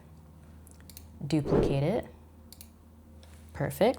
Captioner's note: arrow whooshes